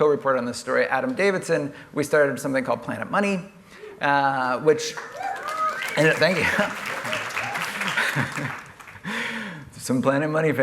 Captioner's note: applause